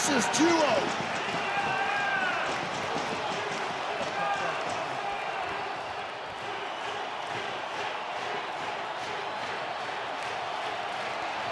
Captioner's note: audience cheering